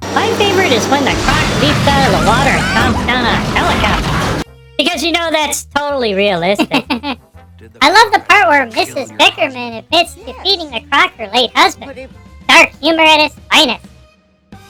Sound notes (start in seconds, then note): 2.0 laughing; 6.5 giggling